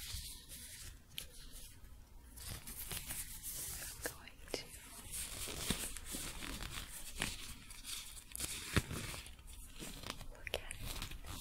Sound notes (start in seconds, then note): 4.5 gloves crinkling and squeaking